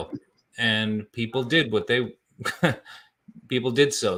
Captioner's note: laughs